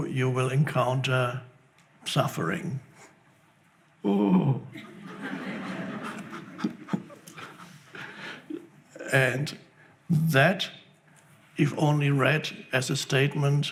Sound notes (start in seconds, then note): 4.0 groans; 4.8 audience laughs